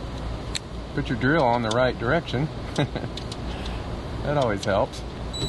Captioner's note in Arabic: يضحك